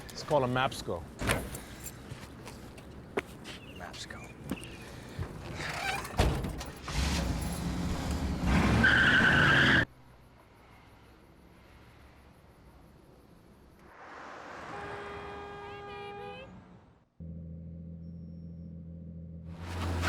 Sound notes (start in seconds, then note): 2.6 book thuds; 6.3 car doors slam shut; 7.1 engine turns over; 8.6 car engine revs; 8.6 tires squealing; 14.6 car horn blares; 17.2 car engine rumbling